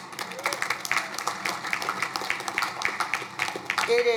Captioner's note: crowd applauding